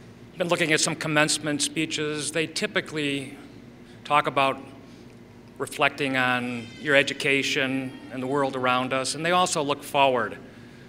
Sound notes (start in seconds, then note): none